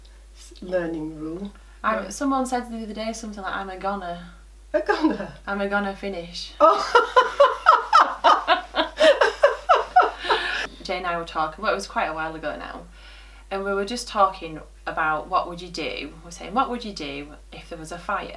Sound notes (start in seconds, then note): 6.6 laughs